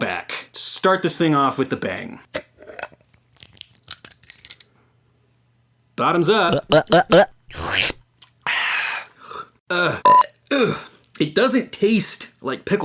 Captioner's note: gulping; belch; sipping